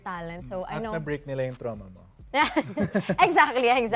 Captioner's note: chuckling